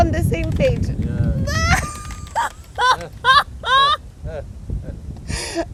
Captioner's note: both laughing